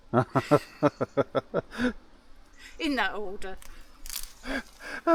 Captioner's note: laughing